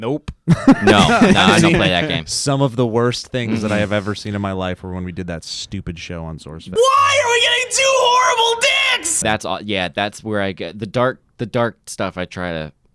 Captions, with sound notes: - Nope. (laughing) - No, nah, I don't play that game. - Some of the worst things that I have ever seen in my life are when we did that stupid show on Source Fed. - (shouts) Why are we getting two horrible digs? - Yeah, the dart stuff I try to steer clear of.